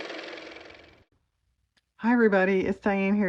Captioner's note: car motor